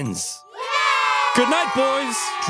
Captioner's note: Carthaginian soldiers cheer